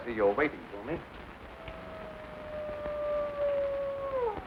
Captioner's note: wolf howling in distance